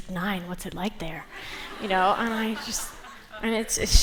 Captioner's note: laughter